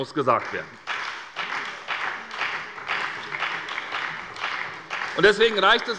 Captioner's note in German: Beifall bei der SPD und der FDP